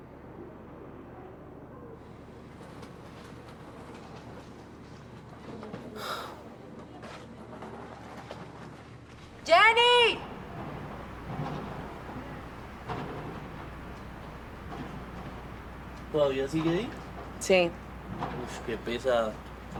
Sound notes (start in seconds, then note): 6.0 sighs heavily